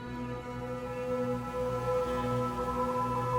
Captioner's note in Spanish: none